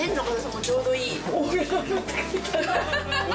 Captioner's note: woman laughing